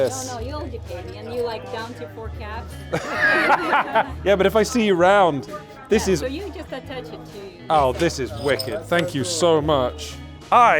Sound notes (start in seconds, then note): 2.9 both laughing